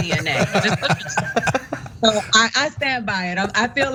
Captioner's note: laugh